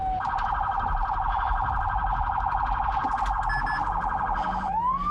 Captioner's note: police sirens wailing